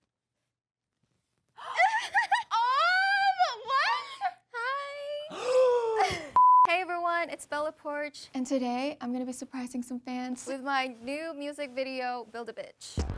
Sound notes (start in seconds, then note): 1.6 Bella laughs; 1.7 gasps